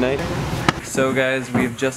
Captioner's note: hands smacking together